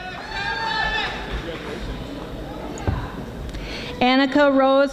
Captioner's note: audience applauding